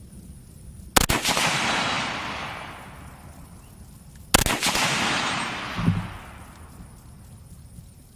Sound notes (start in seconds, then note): 1.2 fires shots